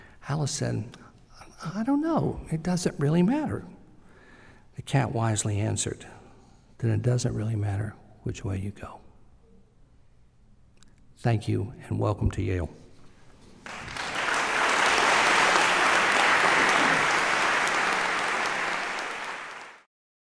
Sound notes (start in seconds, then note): 13.6 applause